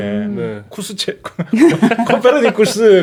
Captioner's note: haha